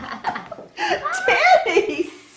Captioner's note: laughing